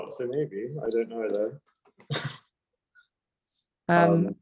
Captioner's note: laughing